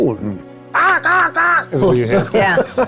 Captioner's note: imitates a crow cawing